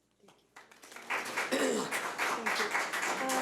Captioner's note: audience applauds